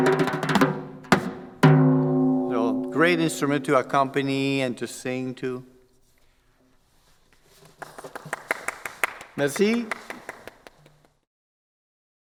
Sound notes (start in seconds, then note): 7.5 claps